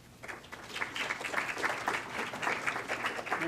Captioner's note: clapping